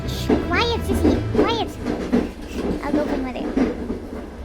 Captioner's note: sighs